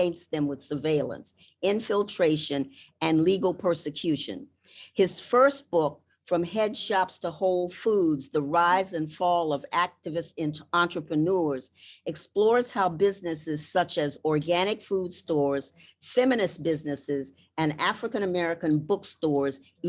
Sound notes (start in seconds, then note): none